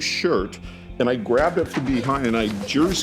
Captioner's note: laughing